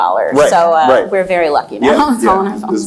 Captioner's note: laughs